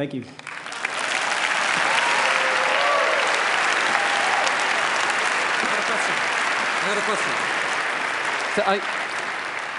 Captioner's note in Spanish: Aplausos